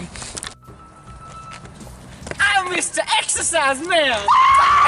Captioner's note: demonic Goat Screaming